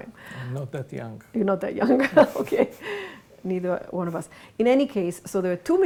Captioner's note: laughs